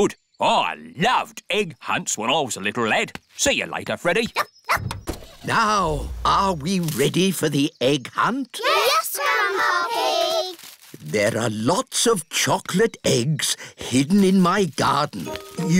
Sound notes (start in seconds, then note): 4.7 barks; 5.7 car engine starts